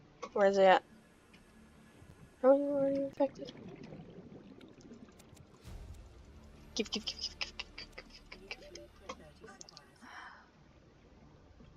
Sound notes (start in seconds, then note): 10.0 breath